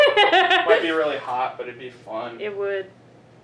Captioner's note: laughs